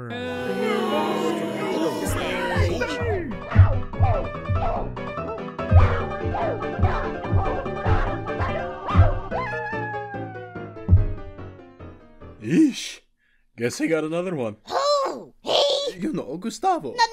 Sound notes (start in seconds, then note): 10.9 thud